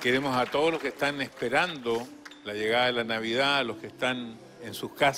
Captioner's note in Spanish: aplausos